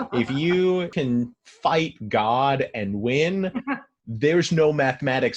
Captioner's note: laughs